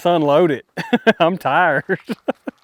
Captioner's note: laughing